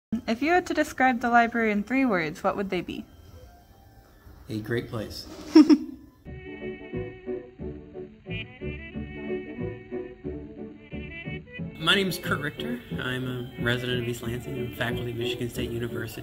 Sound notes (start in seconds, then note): 5.4 laughter